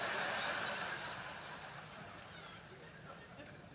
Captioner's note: laughter